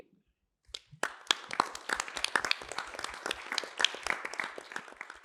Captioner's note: applause